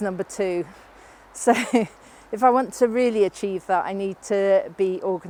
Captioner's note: laughs